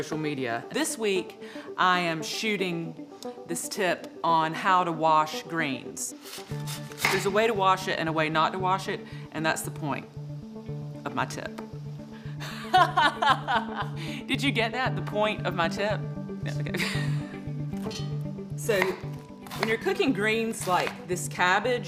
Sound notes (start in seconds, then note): 16.6 chuckles